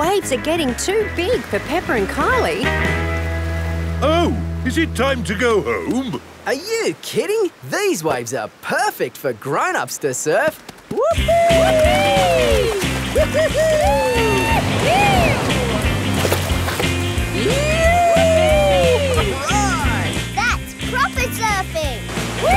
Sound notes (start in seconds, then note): 10.9 both whooping